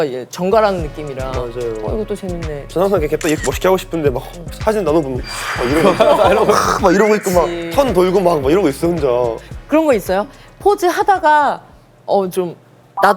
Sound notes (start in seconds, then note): 5.2 whoosh